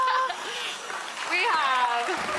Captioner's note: audience applauding